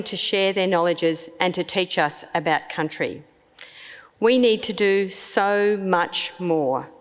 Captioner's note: none